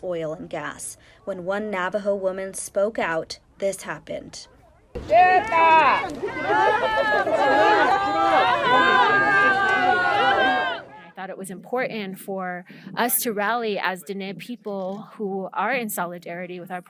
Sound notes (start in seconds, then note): 6.9 shouting